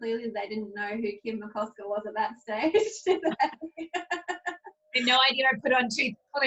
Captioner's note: laughs